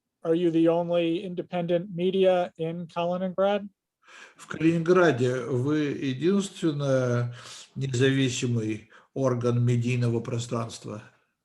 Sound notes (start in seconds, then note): 4.6 translator speaking Russian language